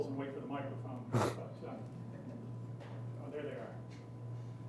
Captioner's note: laughing